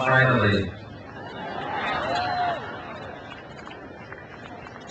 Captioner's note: crowd cheers